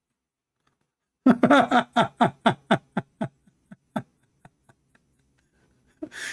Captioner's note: Ketawa